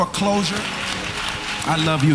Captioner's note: cheering